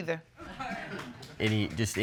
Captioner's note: audience laughs